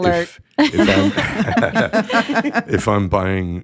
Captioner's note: all laughing